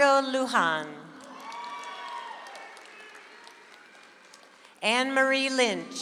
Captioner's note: audience applauds